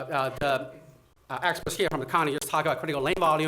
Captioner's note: audio crackling